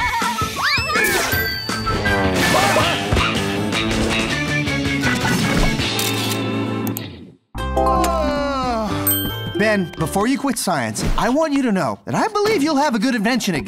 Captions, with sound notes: [yawns] Ben, before you quit science, I want you to know that I believe you'll have a good invention again.